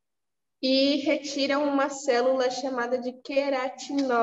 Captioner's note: speaking portuguese